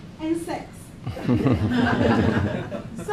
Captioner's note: laughing